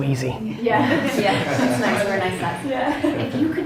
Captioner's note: laughs